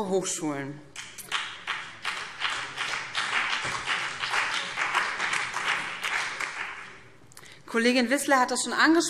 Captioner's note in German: Beifall